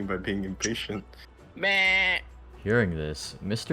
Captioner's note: sheep noises